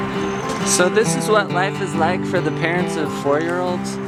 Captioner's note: voiceover